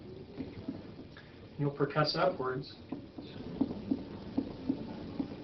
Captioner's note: thumping sound